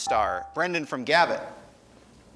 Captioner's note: buzzer chimes